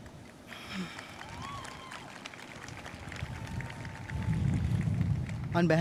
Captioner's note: audience cheering and applauding